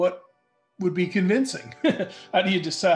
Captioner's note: light laughter